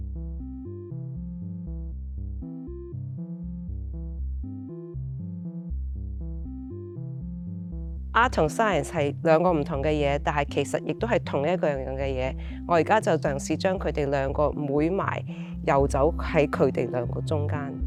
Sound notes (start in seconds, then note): 0.1 electronic music begins; 8.5 Cantonese